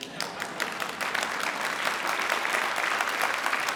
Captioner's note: crowd claps